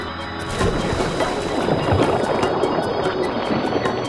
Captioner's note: water splashing